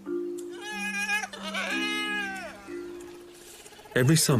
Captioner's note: whining